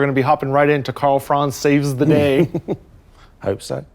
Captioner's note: laughs